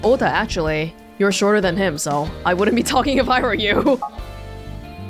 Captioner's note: chuckles